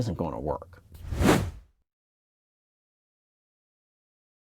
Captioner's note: air whooshing